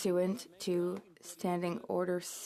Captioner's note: speaking in French